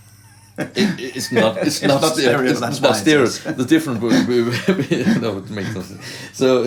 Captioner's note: laughter